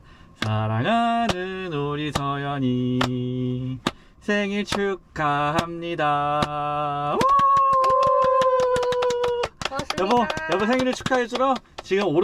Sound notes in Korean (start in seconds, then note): 7.1 물개박수